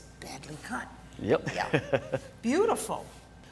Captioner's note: laugh